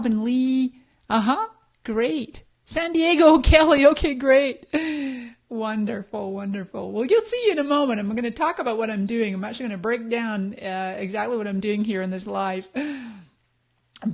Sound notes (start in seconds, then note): none